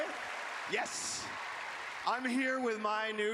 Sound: cheering

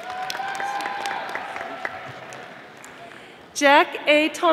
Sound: audience applauding

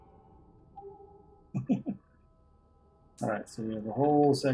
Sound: chuckles

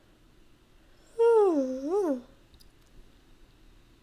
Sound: yawn

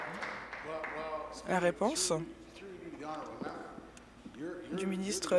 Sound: applause

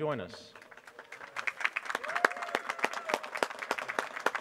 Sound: applause

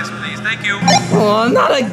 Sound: electronic beep

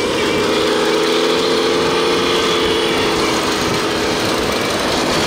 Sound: machine engine roaring

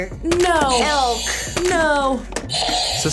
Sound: buzzer rings

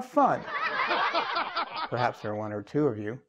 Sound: laugh

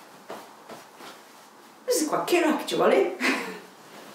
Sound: laughs

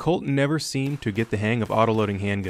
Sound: gunfire

